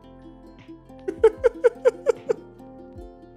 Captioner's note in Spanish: ríete